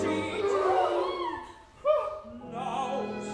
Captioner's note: gasp!